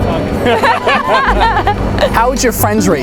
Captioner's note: laughter